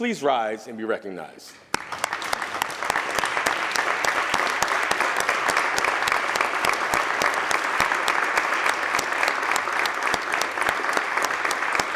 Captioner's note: applause